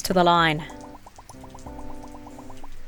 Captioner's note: pearls bubbling